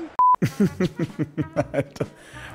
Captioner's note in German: lachend